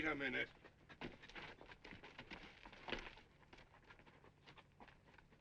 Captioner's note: horse hooves clopping